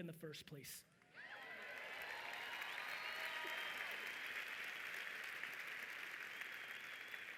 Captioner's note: audience cheering and applauding loudly